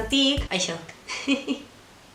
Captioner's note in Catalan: riure